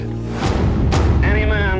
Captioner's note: whooshing